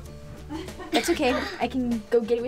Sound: laughs

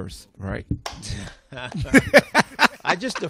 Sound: laughter

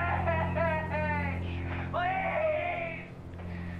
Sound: crying

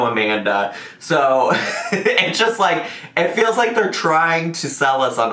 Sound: laughs

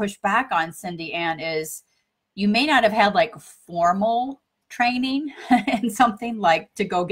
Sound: chuckles

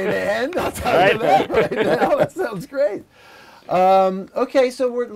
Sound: laughter

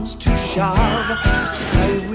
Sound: wilhelm_scream.wav

